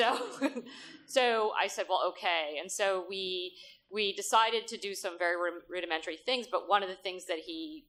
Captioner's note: laughter